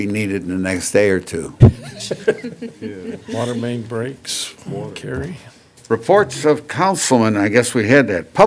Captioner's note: laughter